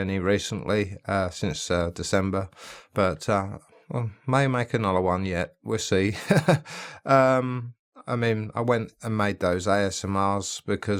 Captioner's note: laughs